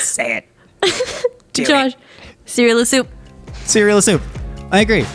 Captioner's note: laughs